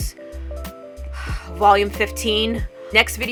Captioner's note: sighs